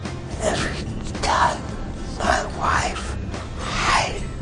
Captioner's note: speaking with difficulty, in a whispered tone